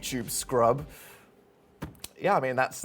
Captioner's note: inhales